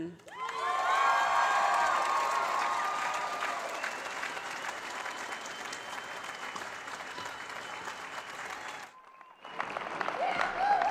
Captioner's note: cheering